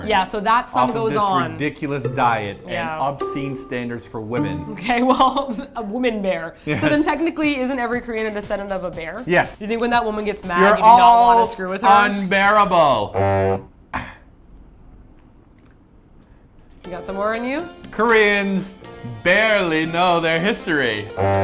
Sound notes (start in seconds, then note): 13.9 clears Throat; 14.2 awkward Silence